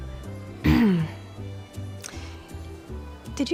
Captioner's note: clears throat